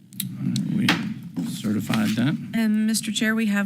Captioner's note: gavel bangs